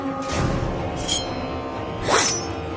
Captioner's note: knife swipe